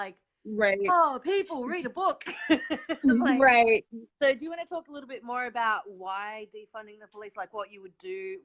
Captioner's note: laughs